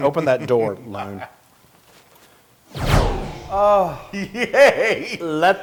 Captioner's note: laugh